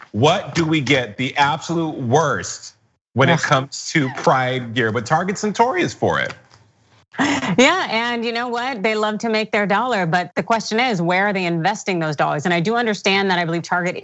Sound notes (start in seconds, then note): 7.2 laugh